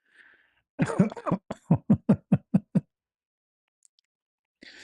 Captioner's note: ketawa